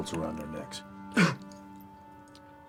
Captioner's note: Garth Fitzgerald IV chokes